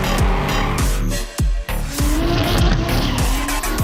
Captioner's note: tires squeal